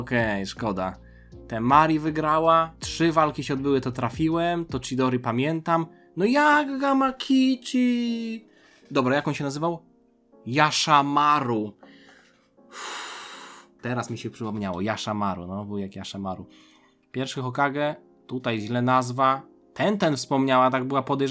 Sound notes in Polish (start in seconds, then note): 12.7 wciągnięcie powietrza; 12.8 westchnienie